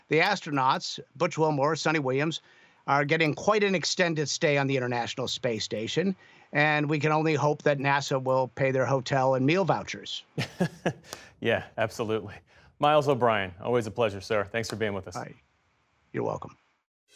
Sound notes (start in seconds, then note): 10.4 laughter